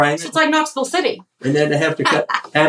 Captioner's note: laugh